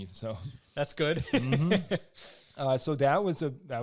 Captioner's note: laughs